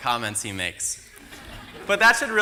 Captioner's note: laughter